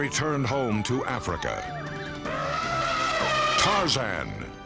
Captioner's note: elephant trumpeting